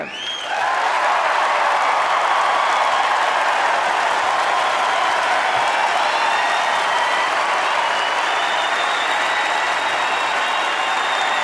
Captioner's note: applause